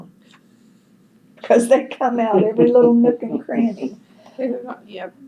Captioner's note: laughter